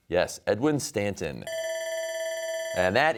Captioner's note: bell rings